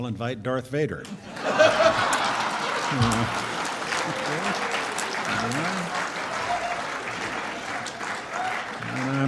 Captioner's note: laughter and clapping from crowd